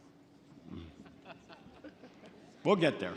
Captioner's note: laughs